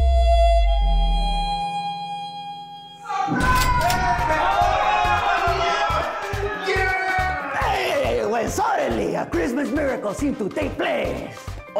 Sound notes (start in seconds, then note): 0.0 mournful harmonica music; 3.0 celebratory screams; 3.3 cash register dings